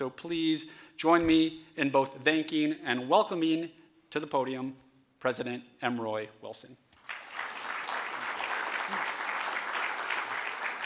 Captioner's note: applause